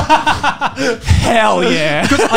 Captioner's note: laughing